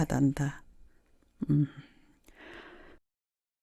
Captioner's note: sigh